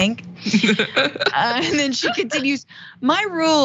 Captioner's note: laugh